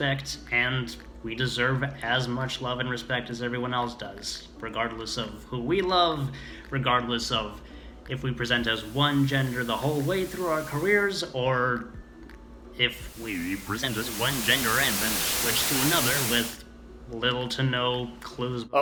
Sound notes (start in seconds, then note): 8.6 static fading in and out; 13.0 static, audio distortion